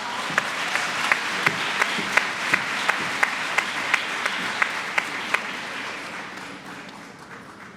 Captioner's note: applause